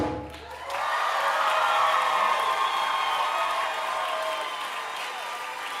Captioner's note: audience cheering and applauding